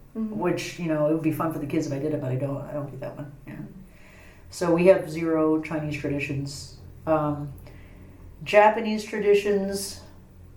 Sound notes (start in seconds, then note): none